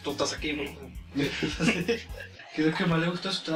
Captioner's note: laughs